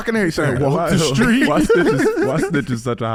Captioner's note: laughs